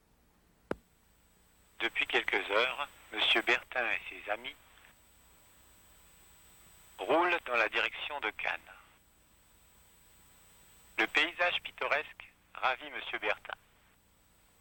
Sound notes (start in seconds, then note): 1.7 french